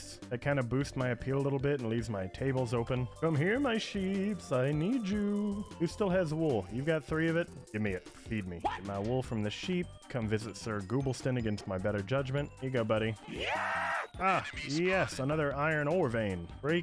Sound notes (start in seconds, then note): 13.2 zombie scream